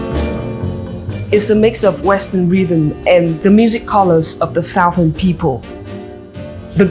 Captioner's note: Vietnamese